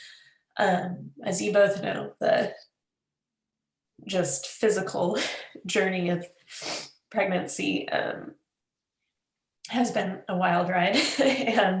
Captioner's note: laughs